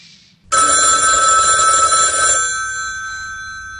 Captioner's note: phone ringing. Talk about an interuption